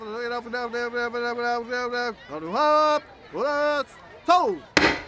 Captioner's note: auctioneer babbling